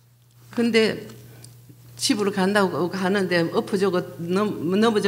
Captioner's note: speaking foreign language